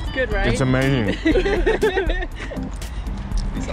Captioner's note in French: happy dutch noises